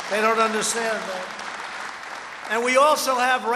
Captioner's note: applause